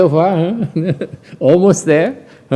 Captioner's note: laughter